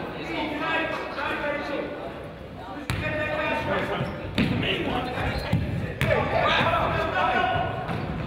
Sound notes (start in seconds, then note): 3.8 coach yells